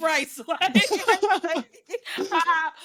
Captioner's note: laughing